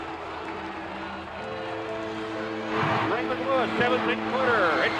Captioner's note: people murmuring